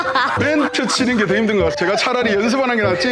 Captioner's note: out of Breath LOL